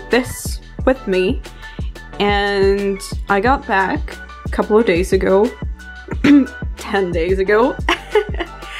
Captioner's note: cough